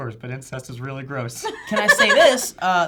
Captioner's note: laughter